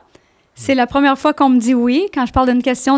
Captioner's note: in french